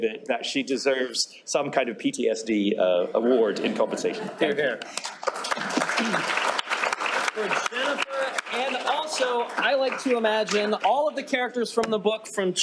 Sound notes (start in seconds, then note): 4.8 applause